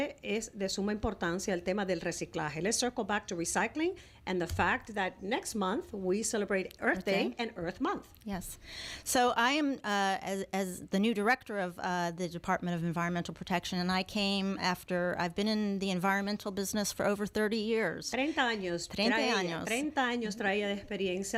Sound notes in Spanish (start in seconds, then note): 16.1 Hablando ingl\s